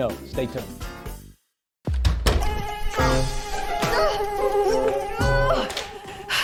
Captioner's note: bugs buzz; woman groans